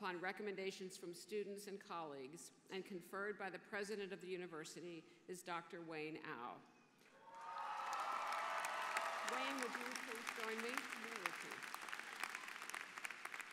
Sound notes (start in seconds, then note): 10.5 applause